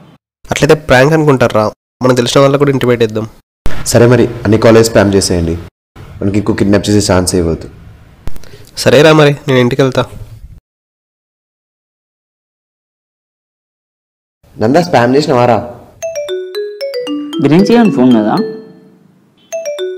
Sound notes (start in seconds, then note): 16.0 phone rings